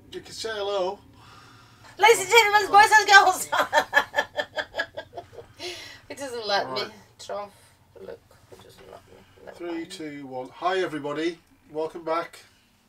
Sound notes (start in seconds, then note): 2.7 laughs